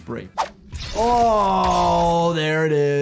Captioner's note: blade clangs